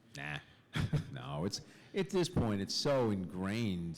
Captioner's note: laughter